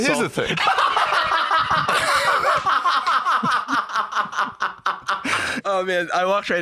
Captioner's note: laughing hysterically